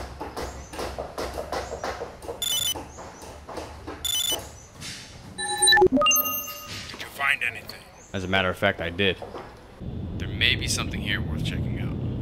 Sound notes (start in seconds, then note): 2.2 comm-link chirps